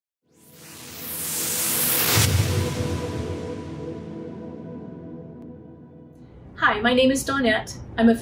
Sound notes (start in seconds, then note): 0.5 whooshing